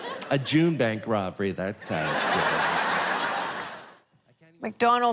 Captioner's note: laughter; laughter